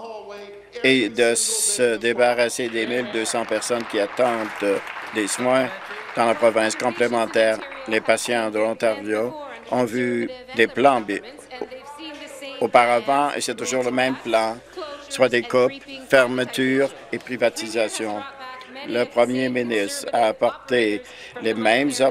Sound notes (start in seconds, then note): 7.9 applause